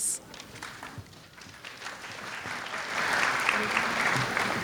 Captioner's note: audience clapping